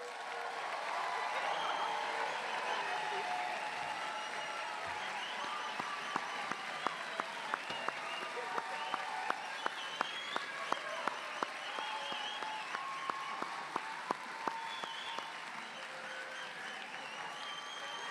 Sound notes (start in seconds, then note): 7.1 applause; 11.5 cheers